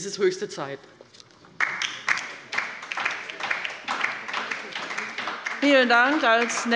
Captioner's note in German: Beifall bei der LINKEN